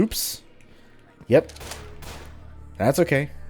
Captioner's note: Vulture gunfire